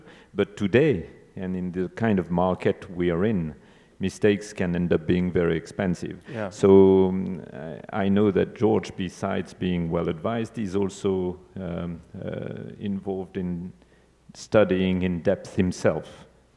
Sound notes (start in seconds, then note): none